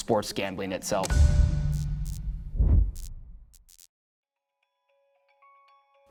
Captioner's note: neon buzzing